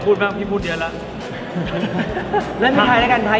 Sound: laughs

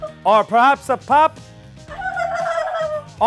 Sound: giggles

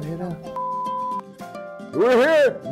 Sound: tone beeps

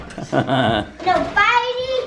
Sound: laughing

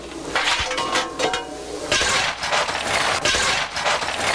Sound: sound of shoveling

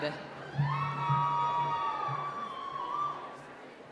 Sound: cheering

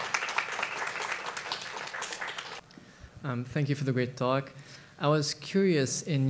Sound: applause

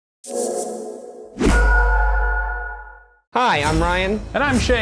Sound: majestic chime

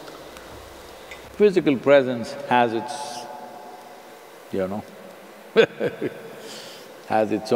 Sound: laughs

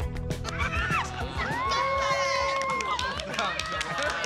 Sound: cheering

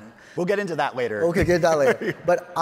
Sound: chuckles

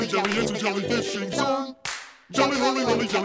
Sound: clap

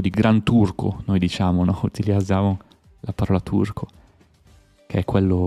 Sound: Turkish

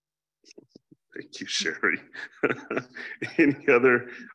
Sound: chuckles

